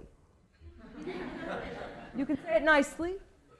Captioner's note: laughter